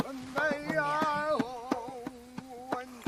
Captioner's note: whispering